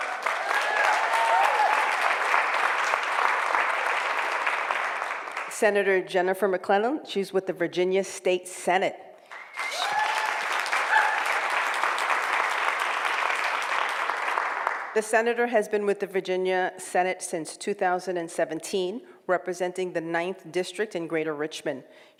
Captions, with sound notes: (applause) Senator Jennifer McClellan, she's with the Virginia State Senate. (cheering and applause) The Senator has been with the Virginia Senate since 2017 representing the ninth district in Greater Richmond,